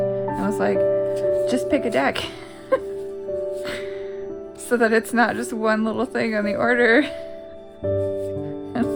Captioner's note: laugh